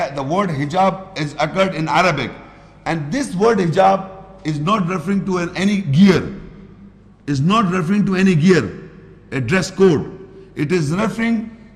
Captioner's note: Arabic